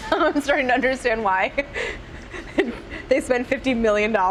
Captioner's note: laughing